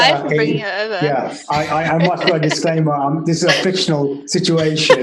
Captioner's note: laughs